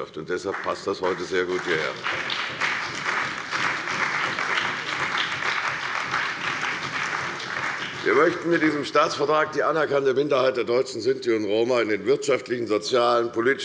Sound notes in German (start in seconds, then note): 2.5 Beifall bei der CDU und dem BÜNDNIS 90/DIE GRÜNEN